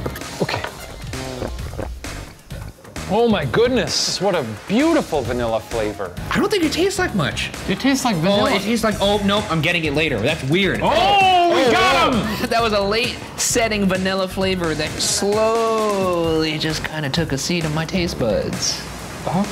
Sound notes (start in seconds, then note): 0.1 fizzes; 0.2 gulps